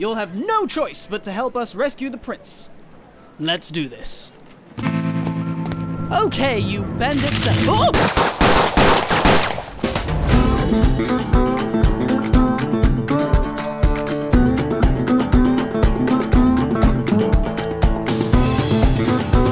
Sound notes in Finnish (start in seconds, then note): 7.8 Aseiden latausta ja ampumista